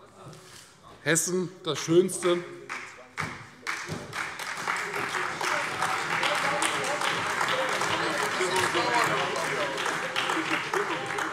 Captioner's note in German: Beifall Freie Demokraten und SPD